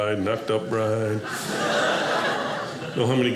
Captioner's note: audience laughing